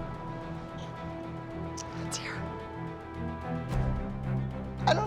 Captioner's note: whispers